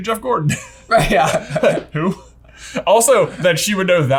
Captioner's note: chuckles